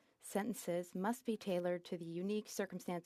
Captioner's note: speaking French